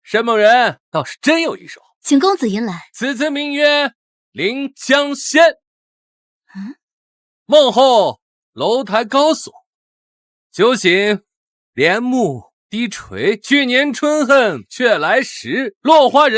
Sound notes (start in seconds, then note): 3.0 reciting the poem